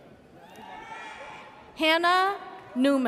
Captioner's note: audience cheers